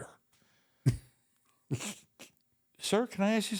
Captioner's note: The Undertaker giggles